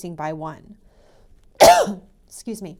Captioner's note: cough